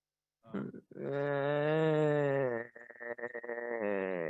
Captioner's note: groaning